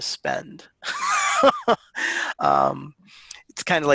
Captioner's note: laughing